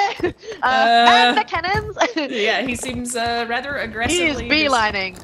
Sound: laugh

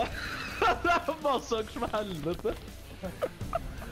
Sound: more laughter

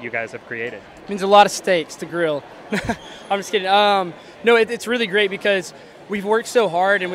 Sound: laughs

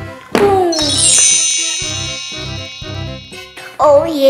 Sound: wand chimes

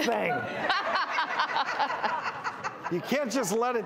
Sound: laughing

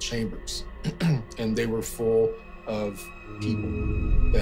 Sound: clears throat

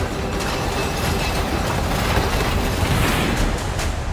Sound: heavy mine cart rattling

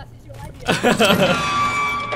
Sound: laugh

